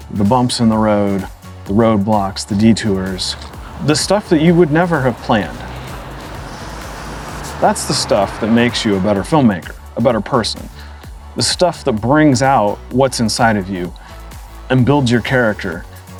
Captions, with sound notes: the bumps in the road, the roadblocks, the detours, the stuff that you would never have planned. [goose hisses] That's the stuff that makes you a better filmmaker, a better person. The stuff that brings out what's inside of you, and builds your character